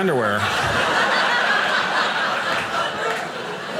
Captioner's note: audience laughing